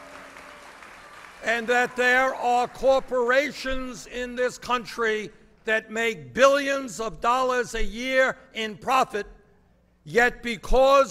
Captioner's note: applause